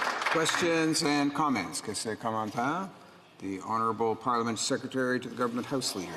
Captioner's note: applause